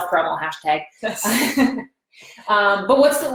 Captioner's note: both laughing